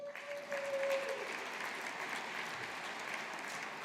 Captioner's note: audience applauding